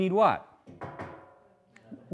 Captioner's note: clanging